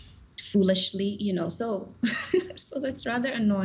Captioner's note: chuckling